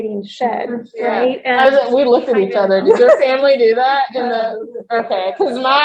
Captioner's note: laughing